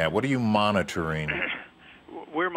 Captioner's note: laughter